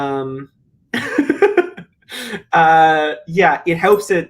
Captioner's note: laughs